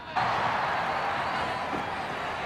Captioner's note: men cheering